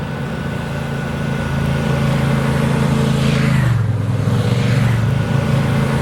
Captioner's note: motorcycle engine rumbling